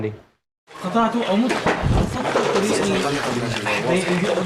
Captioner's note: Arabic spoken audio